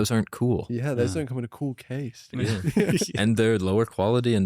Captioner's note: laughs